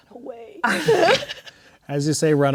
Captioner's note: players laughing